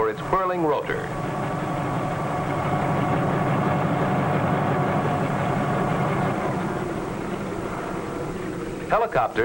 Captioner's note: helicopter blades whirring